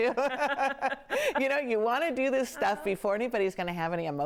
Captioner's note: laughing